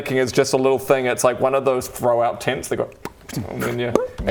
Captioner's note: pop!